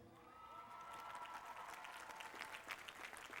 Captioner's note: applause